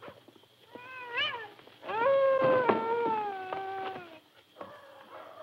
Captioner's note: dogs barking